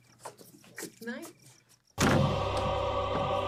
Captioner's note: door slams; orchestral music begins